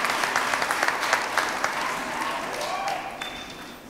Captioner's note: applause